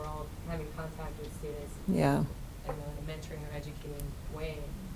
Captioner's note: voice muffled